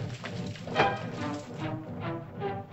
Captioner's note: hooves softly pounding; whack; suspenseful music